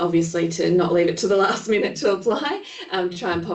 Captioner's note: laughing